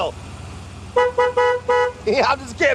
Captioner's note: car horn honking